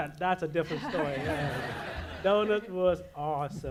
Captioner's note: audience laughs